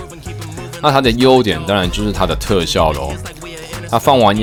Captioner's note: boom-boom